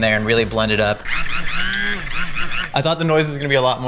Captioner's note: blender whirs